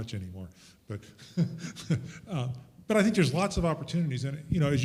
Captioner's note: chuckles